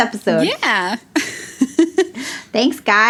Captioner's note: laughs